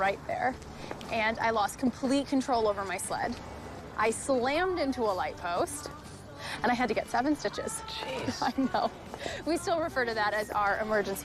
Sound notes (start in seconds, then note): 8.1 laughs